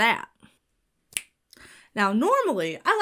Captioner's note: Bill snaps fingers